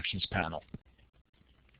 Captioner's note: pause